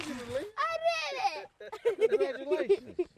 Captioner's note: laughing